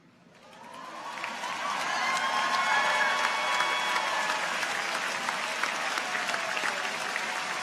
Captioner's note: audience applauds; people cheer